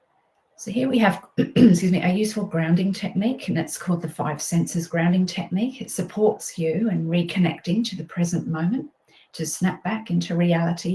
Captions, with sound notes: So, here we have, (clears throat) excuse me, a useful grounding technique and it's called the "5 Senses Grounding Technique." It supports you in reconnecting to the present moment, to snap back into reality,